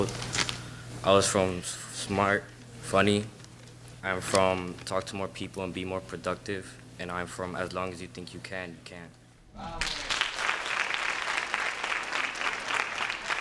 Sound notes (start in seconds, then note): 9.7 applause